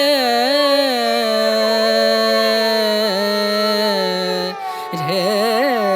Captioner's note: laugh